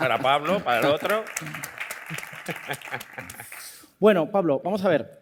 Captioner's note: applause